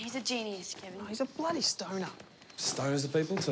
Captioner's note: none